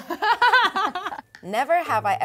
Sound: laughs

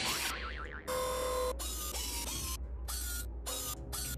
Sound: whirring

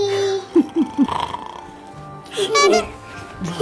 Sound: laughing

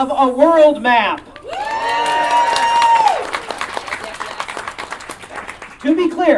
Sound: audience Chearing and Clapping

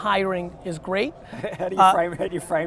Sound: laughing

